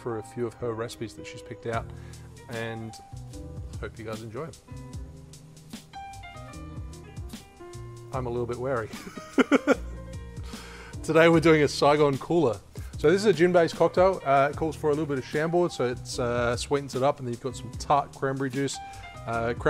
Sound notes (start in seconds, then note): 4.6 jazzy piano music; 9.0 laughs